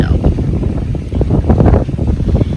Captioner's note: heavy wind